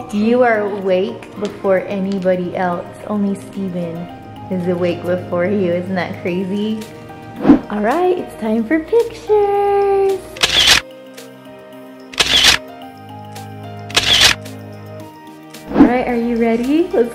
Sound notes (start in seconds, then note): 10.4 camera snapping